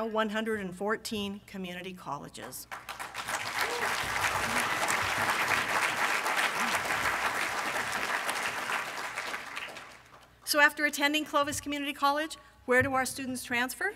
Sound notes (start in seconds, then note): 4.5 applause from audience